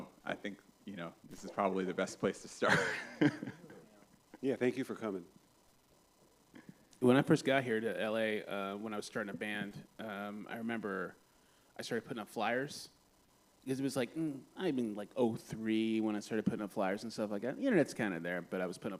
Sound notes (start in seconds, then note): 2.6 laughs